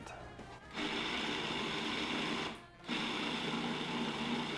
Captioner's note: pulsing